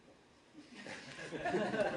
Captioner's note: laughter